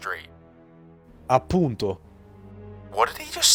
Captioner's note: renzo speaks italian